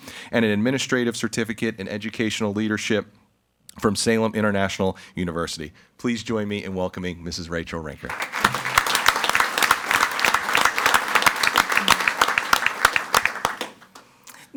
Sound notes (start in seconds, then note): 8.0 everyone applauding